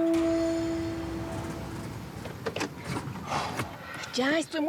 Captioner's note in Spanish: ruido del vehículo